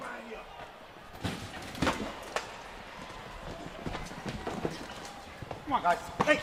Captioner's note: crowd chatter